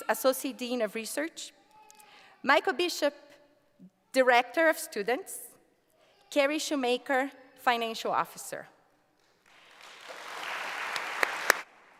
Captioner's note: applause